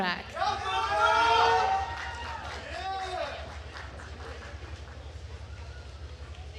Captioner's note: attendees cheering and applauding